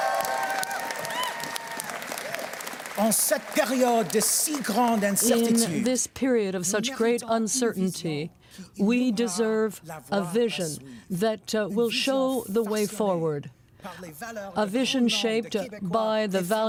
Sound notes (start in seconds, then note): 1.7 cheers and Applause; 8.1 speaking french